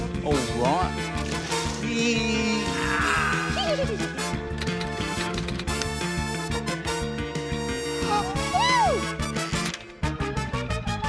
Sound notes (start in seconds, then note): 4.7 typewriter clacks; 7.7 gasps